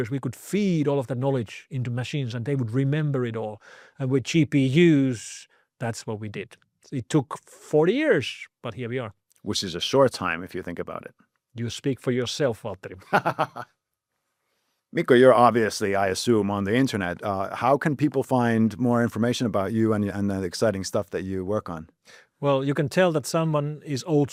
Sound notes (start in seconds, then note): 13.0 laughs